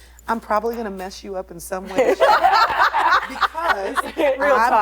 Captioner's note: laughing